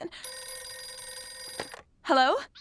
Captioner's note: phone ringing